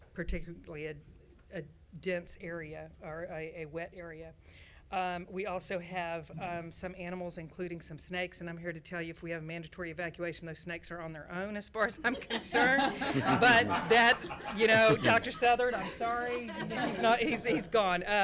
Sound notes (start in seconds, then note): 12.2 everyone laughing